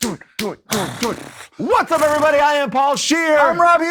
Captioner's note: fluttering lips